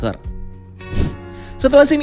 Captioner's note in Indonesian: suara transisi